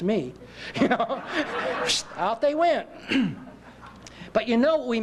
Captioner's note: laughter